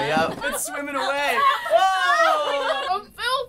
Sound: laughter

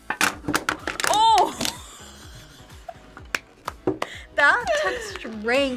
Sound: laughs

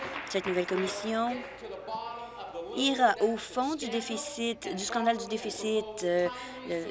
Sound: applause

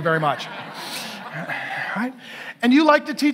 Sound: congregation laughing; sighs

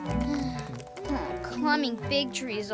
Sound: groans

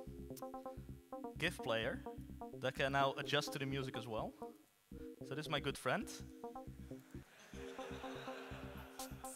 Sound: audience laughs

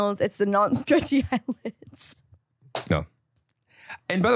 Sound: laughs

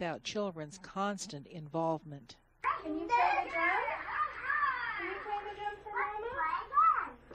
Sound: squeals happily

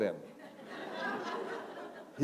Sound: laughter

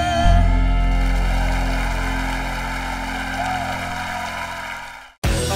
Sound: audience cheering; audience applauding

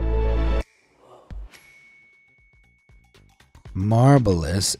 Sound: bell rings

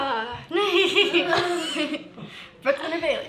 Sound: laughter

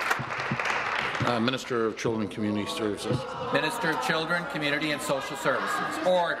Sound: applause

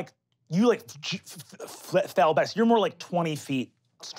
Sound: stuttering

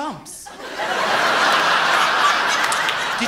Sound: loud laughter

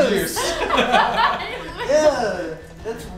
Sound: laughing

